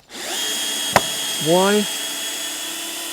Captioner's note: drilling